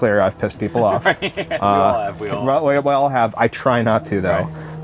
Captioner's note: laughs